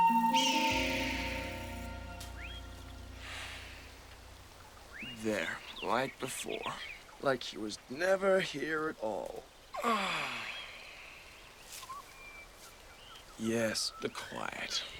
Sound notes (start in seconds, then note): 9.7 sighing